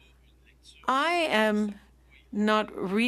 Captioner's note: speaking French